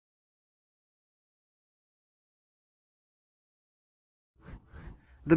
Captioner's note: transition swooshes